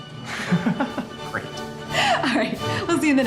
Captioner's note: laughs